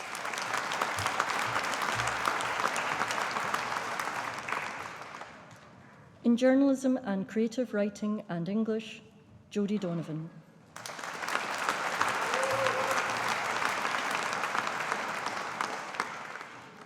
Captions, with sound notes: (AUDIENCE APPLAUDING) In Journalism and Creative Writing and English. Jodie Donovan. (AUDIENCE APPLAUDING)